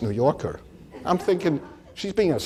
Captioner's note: audience laughs